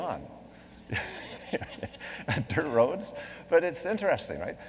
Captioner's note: laughs